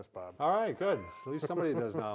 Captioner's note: laughing